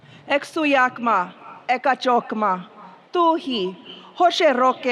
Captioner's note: speaking foreign language